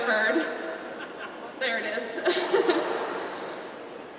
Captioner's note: laughs